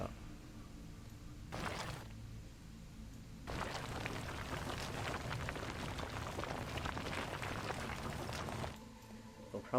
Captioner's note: gravel sounds